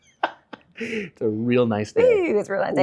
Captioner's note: laughter